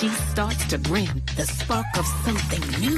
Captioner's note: female narrating poetry